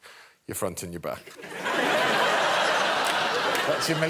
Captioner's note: laughter